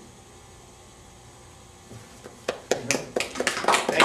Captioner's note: audience clapping